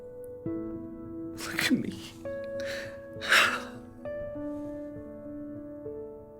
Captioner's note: crying